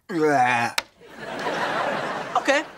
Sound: laughing

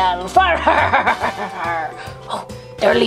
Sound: laughs

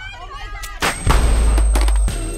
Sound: gun shot

